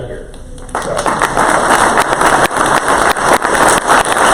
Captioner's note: crowd applause